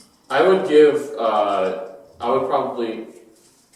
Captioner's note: none